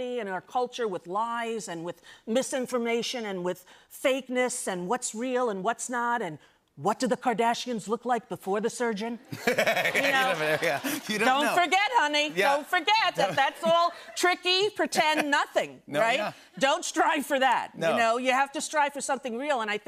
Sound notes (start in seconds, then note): 9.2 laughter